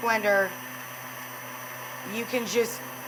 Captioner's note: blender whirs